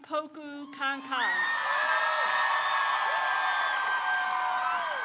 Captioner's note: crowd cheers